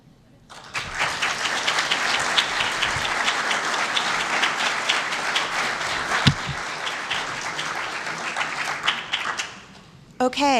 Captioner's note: applause